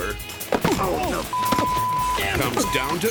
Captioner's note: thuds; beep